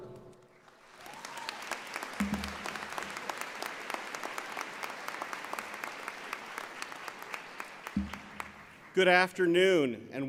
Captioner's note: cheering and Applause